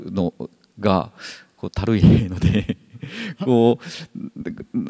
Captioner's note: chuckles